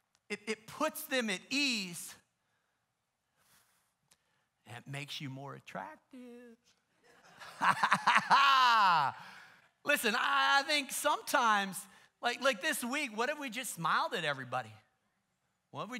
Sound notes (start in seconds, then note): 7.0 laughter